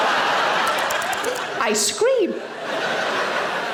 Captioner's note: audience laughing; laps lips repetitively